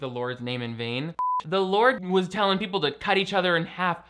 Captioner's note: beep